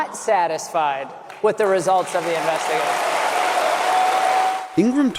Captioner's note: cheering